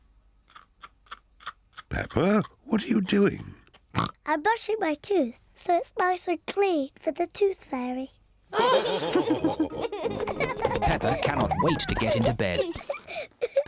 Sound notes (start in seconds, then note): 3.9 oinks; 8.5 all laughing